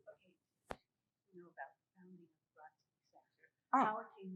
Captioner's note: murmuring